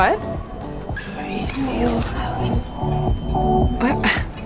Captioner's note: whispering